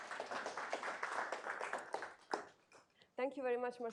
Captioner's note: applause